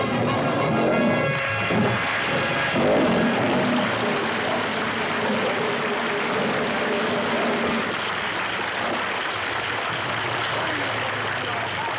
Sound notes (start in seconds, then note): 1.5 audience applauds